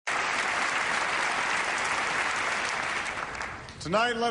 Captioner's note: applause